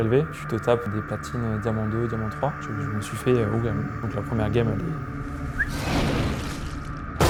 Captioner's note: whistling